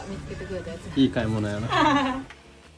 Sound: laughs

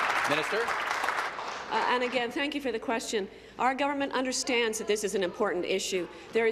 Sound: applause

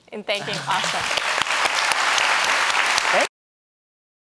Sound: audience applauding

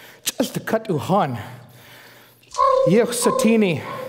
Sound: foreign speaking

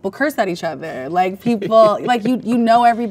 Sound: man laughs

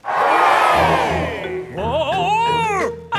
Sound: crowd cheers

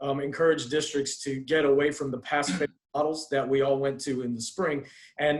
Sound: faintly speaking

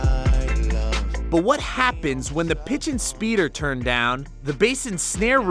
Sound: voice-over

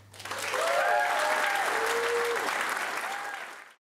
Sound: applause, cheers

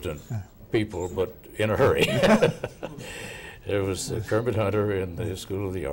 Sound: laughing

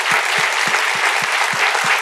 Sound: applause

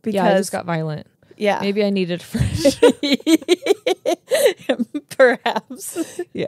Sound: laugh

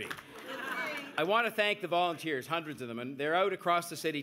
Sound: laughter

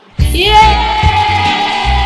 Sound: cheers

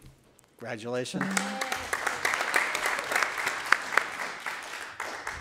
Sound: attendees applauding

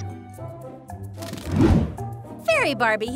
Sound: cheerful music; wings flapping

